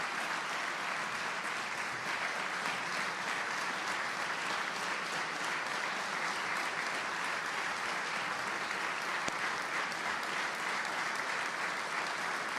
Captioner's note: applause